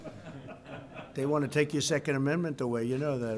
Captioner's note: laughter